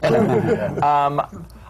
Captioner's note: laughter